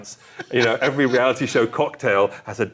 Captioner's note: laughing